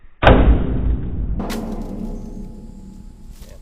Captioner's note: slowed down thudding